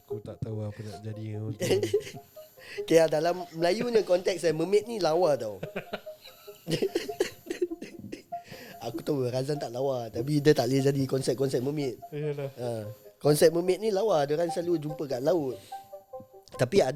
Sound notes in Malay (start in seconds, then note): 5.4 ketawa